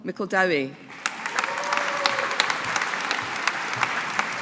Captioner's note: audience applauding